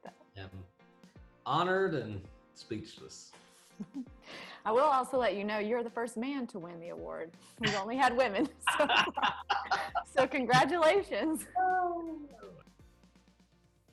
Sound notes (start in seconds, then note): 3.7 giggles; 7.6 both laughing; 11.2 mellow music